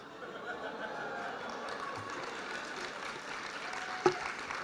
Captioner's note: applause